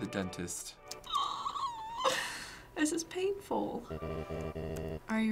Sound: squealing

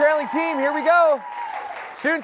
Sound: cheers and applause

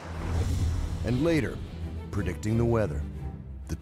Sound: voiceover

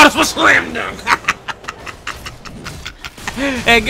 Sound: laughing

